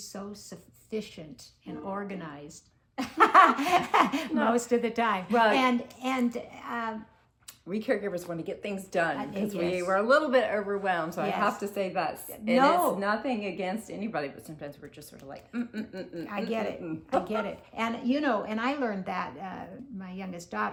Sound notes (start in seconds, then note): 3.0 laughter